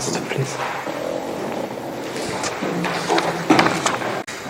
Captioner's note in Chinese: 页面沙沙作响